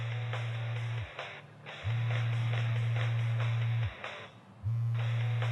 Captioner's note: cell phone ringing